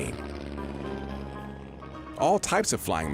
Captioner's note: airplane engine roaring